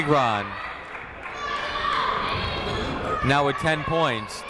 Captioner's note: people shouting in the crowd